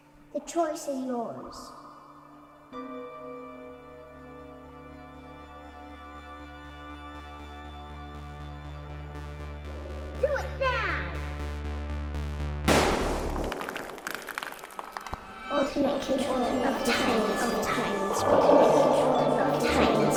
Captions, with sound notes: The choice is yours. Do it now. [Gun Fire]